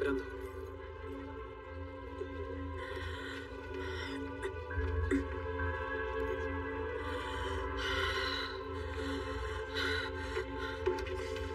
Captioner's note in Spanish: Respira agitada